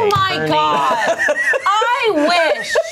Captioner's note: everyone laughs